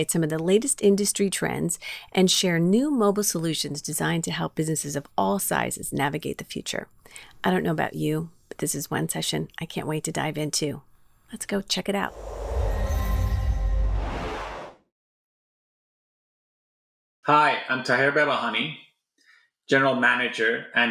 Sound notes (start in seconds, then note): 12.0 air whooshing